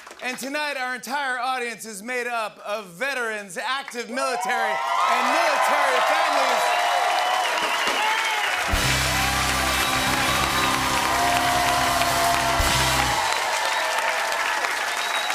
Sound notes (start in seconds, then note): 6.6 cheers and applause